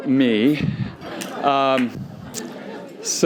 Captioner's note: laughter